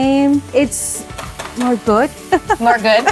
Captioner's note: laughs